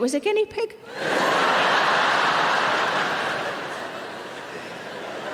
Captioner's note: audience laughing